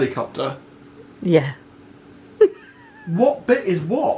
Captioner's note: chuckling